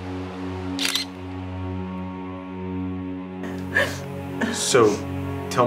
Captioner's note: dramatic music; camera shutter clicking